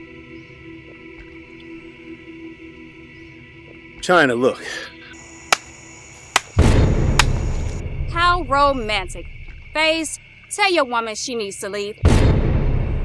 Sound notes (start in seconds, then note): 5.4 ninja clapping